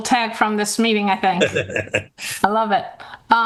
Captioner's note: laughs happily